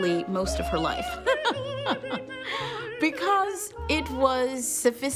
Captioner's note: laughs